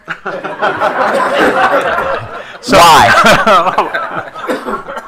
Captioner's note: attendees laughing